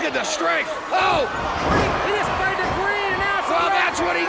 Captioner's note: commentators exclaim